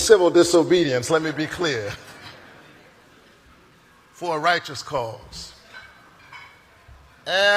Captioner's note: laughter